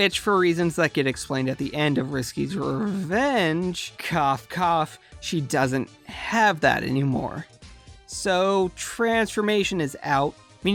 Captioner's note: cough Cough